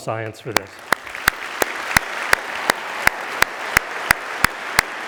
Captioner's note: everyone applauding